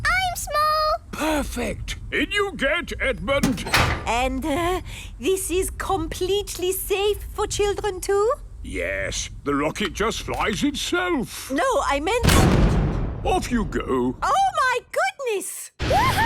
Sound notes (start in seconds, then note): 12.7 blasts off